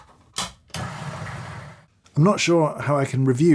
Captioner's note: coffee grinder grinding